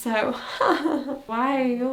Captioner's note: laughs somberly